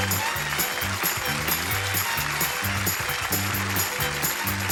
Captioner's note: applause